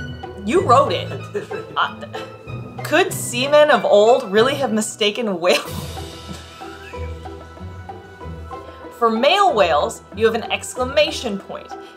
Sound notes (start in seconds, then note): 1.0 laughing in background; 5.2 laughs; 5.6 background music; 6.5 laughing